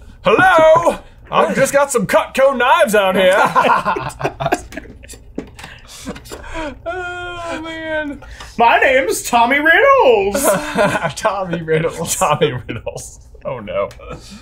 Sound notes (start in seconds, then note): 0.0 laughs; 3.0 laugh; 10.3 laughs